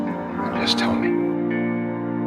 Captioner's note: voiceover